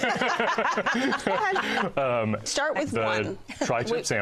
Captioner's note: laughter